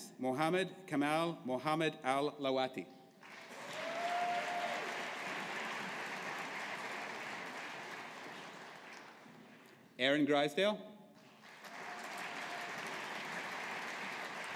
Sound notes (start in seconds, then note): 3.2 audience applauding; 11.3 audience applauding